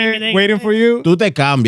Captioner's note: speaking In Foreign Language